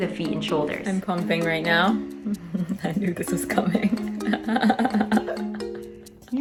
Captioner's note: laughing